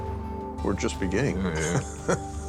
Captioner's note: laughs